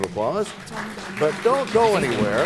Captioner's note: applause